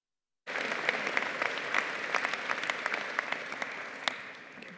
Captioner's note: audience applauding